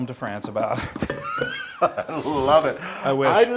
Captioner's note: laugh